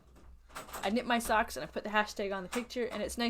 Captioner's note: door-rattles